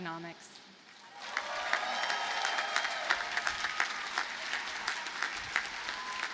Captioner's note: audience cheers and applauds